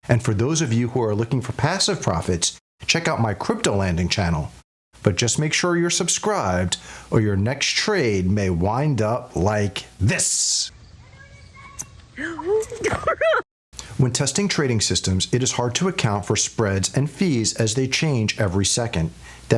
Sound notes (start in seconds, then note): 12.2 lady chuckling